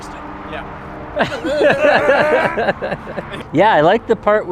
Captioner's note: laughter